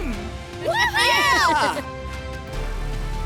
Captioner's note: cheering